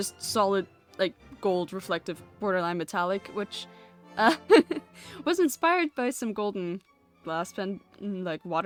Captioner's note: laughs